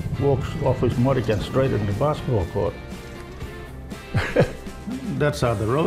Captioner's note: laughs